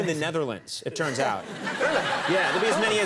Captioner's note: crowd laughs